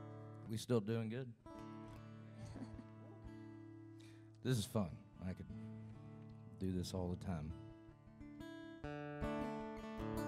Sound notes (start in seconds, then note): 2.3 chuckles; 7.2 guitar strumming